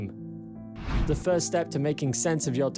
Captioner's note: screen swishes